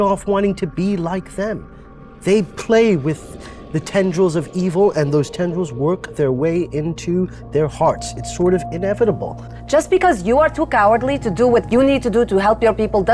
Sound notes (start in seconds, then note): none